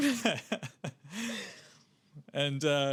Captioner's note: laughing